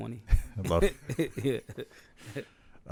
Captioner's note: laughs